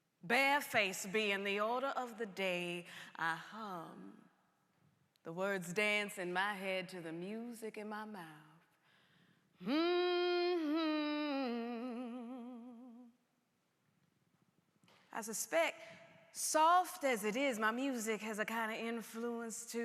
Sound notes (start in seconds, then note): 9.6 humming